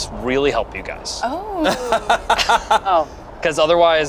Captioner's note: laughs